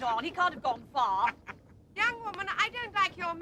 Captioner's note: man laughs